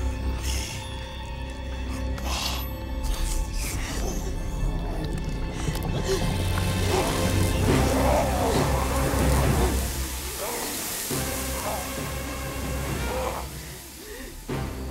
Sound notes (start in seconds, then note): 5.3 Luther groaning; 5.3 dramatic music; 9.1 sizzling